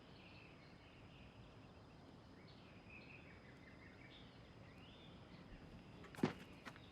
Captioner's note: bird chirp